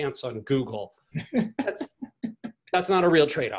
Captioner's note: laughs